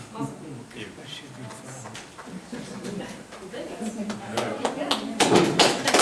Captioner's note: background group chatter; group applauding